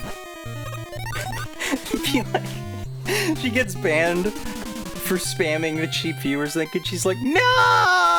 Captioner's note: laughs